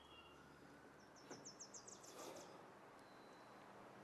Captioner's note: birds chirping